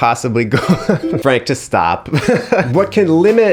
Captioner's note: laughs